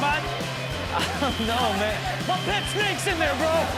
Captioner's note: laughing